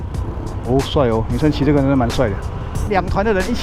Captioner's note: off-road vehicle